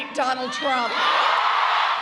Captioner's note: cheering and applause